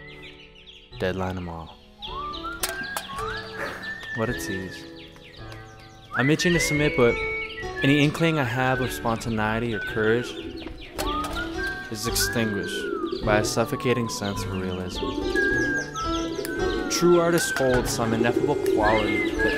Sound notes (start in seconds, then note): 2.0 whistling; 2.5 can clanking